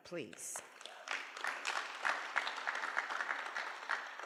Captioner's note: applause